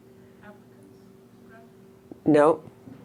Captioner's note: voiceover